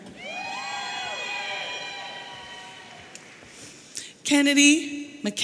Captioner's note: audience cheering